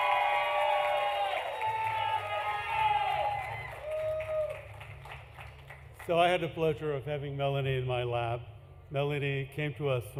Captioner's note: applause